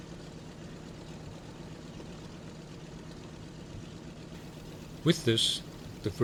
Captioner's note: aircraft engines continue sounding